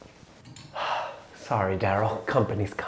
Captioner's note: sighs